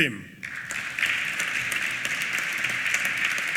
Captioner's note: applause